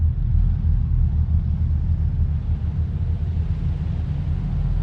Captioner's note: low mechanical humming